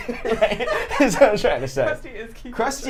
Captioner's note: both laughing